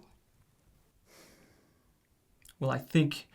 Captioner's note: sighs